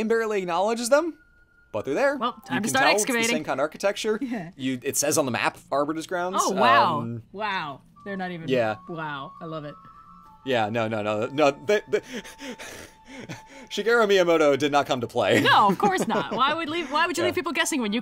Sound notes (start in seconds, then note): 11.8 laughs